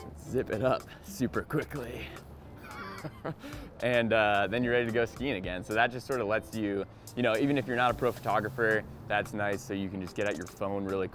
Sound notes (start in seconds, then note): 2.6 laughing